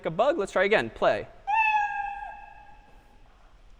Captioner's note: meow